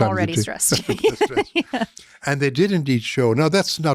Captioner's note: laughing